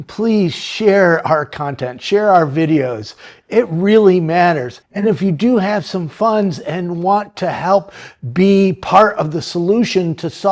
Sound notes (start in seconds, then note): none